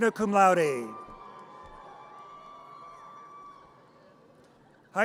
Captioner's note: audience cheers